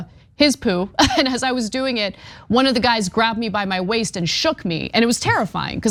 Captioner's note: laugh